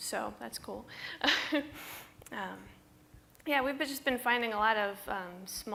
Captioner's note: laughs